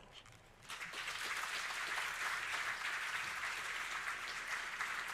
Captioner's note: audience applauding